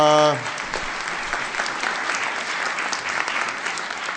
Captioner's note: applause